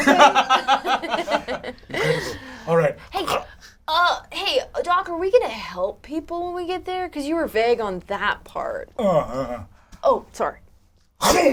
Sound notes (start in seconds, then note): 0.0 all laugh; 1.9 gags